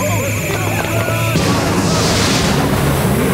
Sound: all clamouring

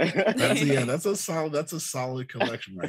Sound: all giggles

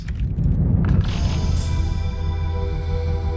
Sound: wind rushing; light electronic music

